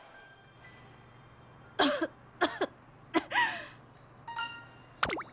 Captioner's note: cough